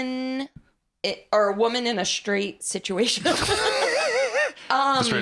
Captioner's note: laughs